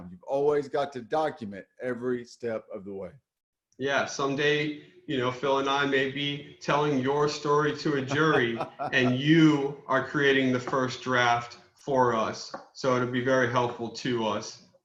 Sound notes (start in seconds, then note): 7.9 laughs